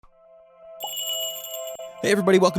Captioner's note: magical jingle